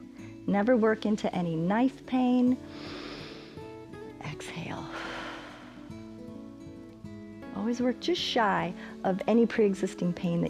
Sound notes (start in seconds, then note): 2.6 inhales; 4.8 exhales